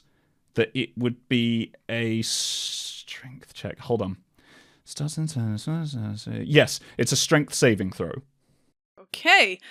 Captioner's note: mumbles to himself